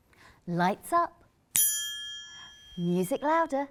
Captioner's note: ping